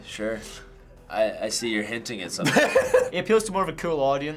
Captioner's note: laughs